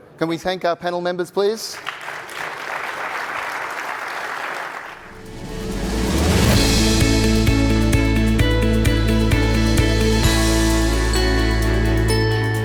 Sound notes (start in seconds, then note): 1.6 audience clapping; 5.0 upbeat music